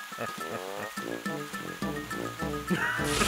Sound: laughing

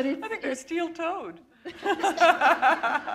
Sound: chuckle

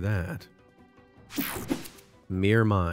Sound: logo whooshing

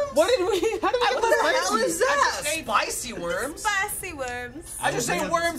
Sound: "Italian" accent

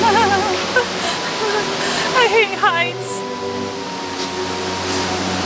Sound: mom shuddering

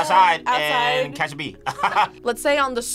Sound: laughs

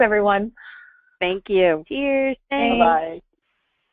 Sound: voiceover

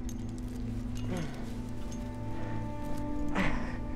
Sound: climber straining

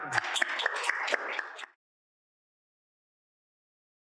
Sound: audience clapping

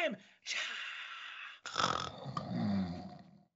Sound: snoring

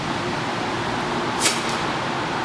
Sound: spits

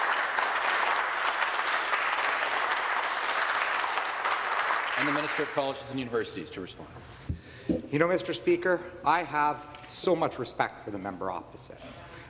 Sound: some Applause

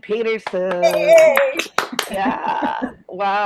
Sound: all cheering

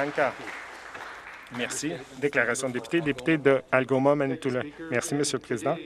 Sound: some Applause

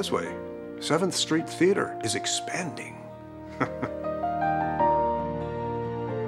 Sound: chuckles; soft gentle music

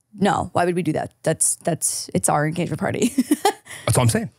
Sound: laughing

